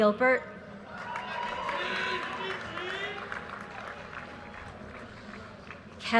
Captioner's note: audience cheers and applause